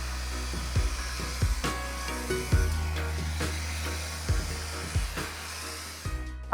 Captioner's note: blower whirring; pleasant music